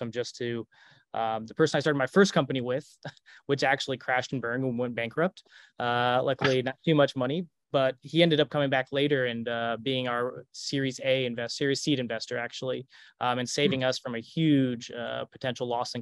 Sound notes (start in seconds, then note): 3.1 chuckles; 5.9 chuckles